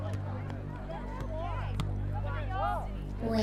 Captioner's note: lively crowd sounds